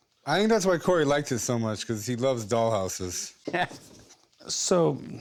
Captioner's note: laughs